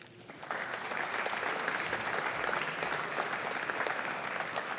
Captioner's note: audience applauding